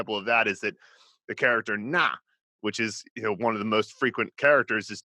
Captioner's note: speaks Mandarin